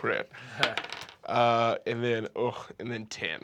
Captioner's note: rolls dice